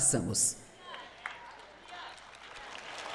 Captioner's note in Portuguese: plateia aplaudindo